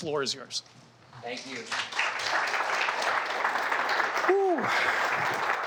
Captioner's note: audience clapping